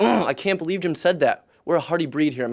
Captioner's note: frustrated noises